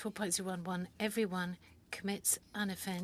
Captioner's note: speaking French